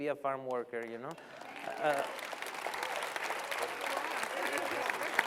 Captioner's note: applause